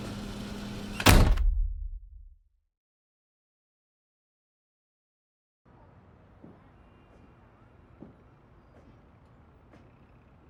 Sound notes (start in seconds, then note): 0.8 refrigerator door slams; 6.6 muffled footsteps clacking